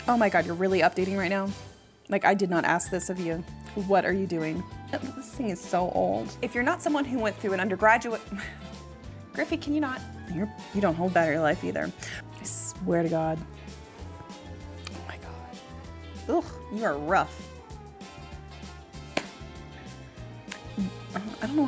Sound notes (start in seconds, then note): 8.3 chuckling; 17.8 gentle upbeat music